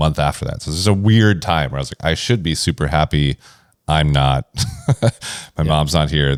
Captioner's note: laughs